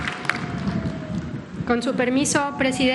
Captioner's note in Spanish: aplausos